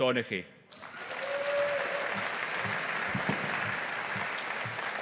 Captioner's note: audience applauding